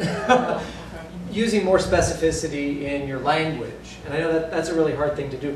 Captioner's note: laughter